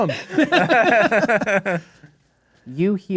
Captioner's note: players laughing